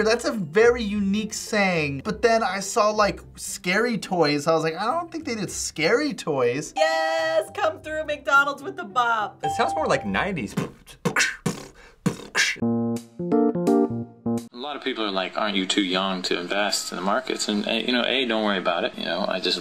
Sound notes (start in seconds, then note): 10.5 beatboxes; 12.6 quirky interlude